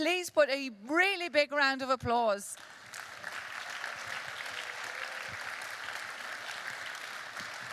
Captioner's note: applause